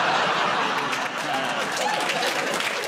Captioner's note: laughter